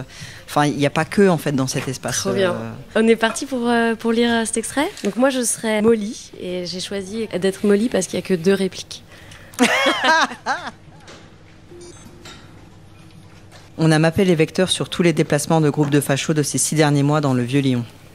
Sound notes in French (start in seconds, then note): 9.6 rires